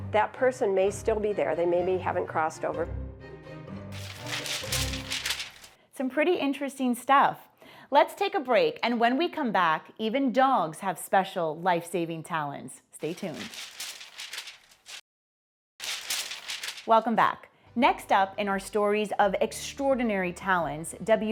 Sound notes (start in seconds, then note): 3.0 gentle ominous music; 3.9 paper crinkling; 13.0 paper crinkling